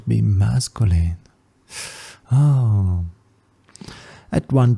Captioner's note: sigh